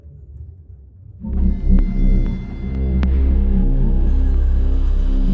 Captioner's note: electronic swirling